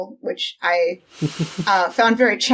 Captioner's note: laughing